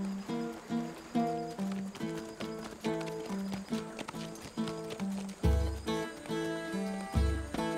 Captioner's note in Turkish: At nalı sesleri